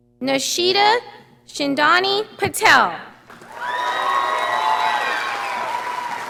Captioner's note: audience applauding